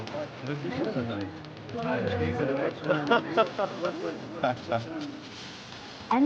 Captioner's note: patrons chatter; upbeat music